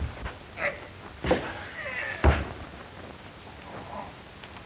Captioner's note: grunting